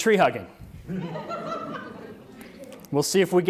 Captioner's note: audience laughs